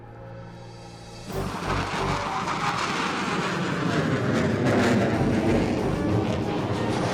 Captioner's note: intense music; aircraft whirring